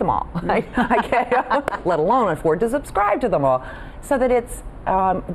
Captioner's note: laughs